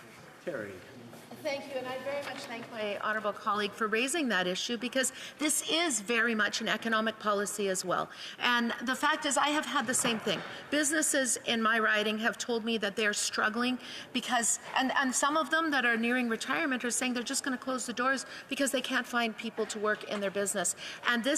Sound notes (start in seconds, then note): 6.2 off mic